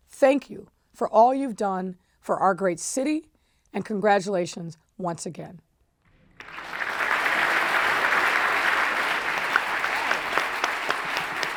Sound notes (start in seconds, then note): 6.4 audience applauds